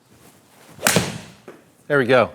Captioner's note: ball cracking